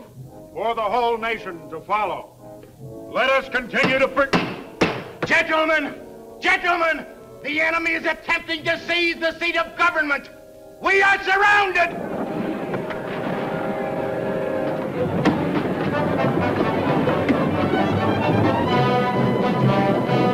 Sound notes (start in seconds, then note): 4.2 gavel thudding; 11.8 crowd chattering; 14.7 footsteps tapping; 14.7 suspenseful music